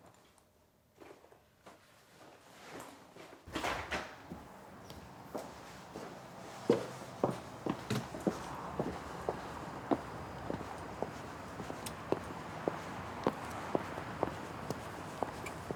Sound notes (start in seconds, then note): 3.5 door clicks; 6.6 faint traffic noise; 6.6 footsteps echo